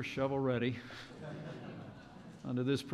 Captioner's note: laughter